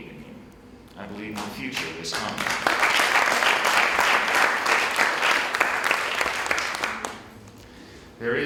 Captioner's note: applause